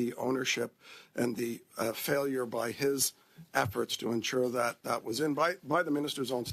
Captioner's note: speaking French